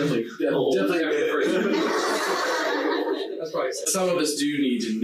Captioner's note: laughs loudly